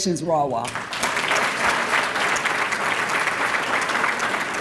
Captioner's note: applause